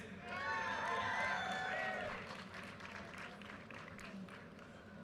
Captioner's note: audience cheers and applause